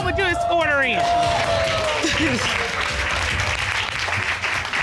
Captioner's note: cheers and applause; chuckles